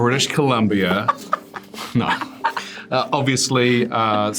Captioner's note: Priyanka laughing